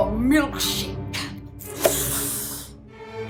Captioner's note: peeling sound